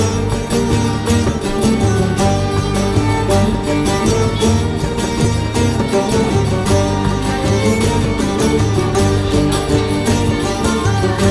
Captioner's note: cheers